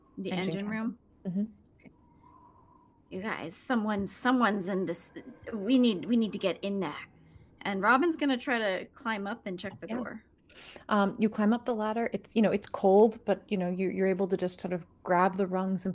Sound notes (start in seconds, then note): none